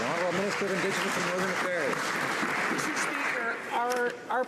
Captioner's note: some Applause